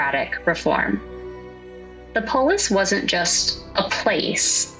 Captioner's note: reflective tone